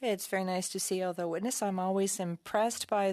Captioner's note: speaking French